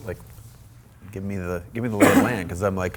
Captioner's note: Rich coughs